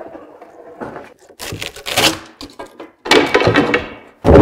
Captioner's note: wood scrapes; wood cracks; wood clatters